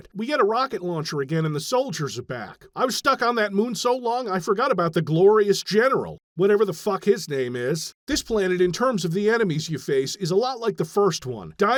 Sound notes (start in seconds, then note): none